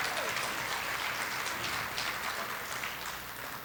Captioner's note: applause